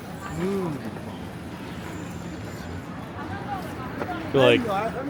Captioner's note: crowd chattering